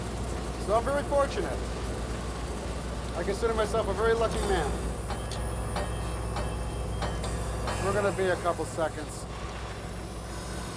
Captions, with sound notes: So I'm very fortunate. I consider myself a very lucky man. (metal clanking) We're gonna be a couple of seconds.